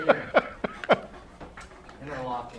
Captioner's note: laughs